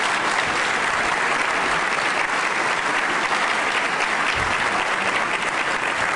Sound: applause

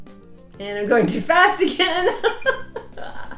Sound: laughs

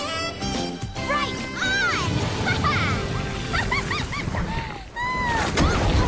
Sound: laughs

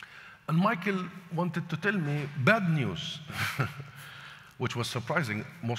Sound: laughs

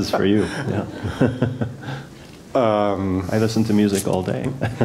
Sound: laugh; laugh

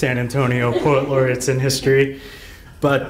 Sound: laughing

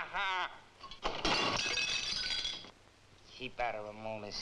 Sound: dish shatters

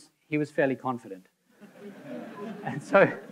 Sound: audience laughing

